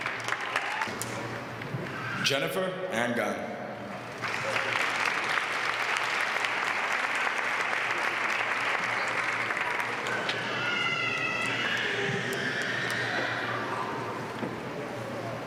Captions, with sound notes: [APPLAUSE] >> Jennifer Langdon. >> [APPLAUSE]